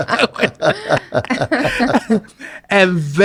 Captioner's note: all laugh